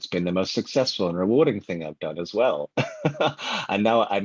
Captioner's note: laughs